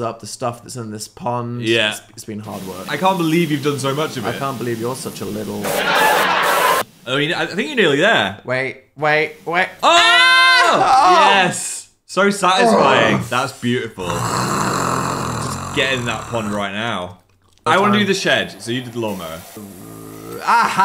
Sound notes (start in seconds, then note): 5.6 audience laughing; 5.7 liquid hissing; 12.6 moaning; 14.0 growling; 19.7 growls